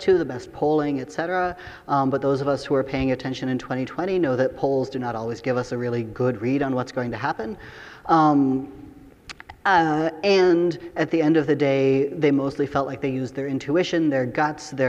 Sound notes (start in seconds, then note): none